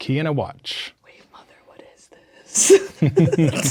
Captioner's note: whispers; players laughing